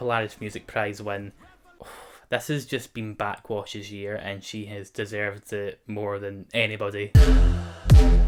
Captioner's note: exhales